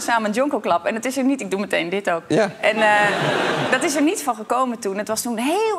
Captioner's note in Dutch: gelach